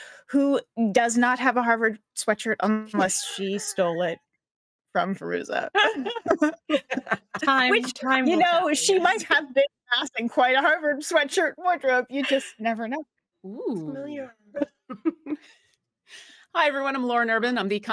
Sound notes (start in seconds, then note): 5.7 laughs